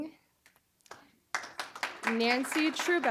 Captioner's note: applause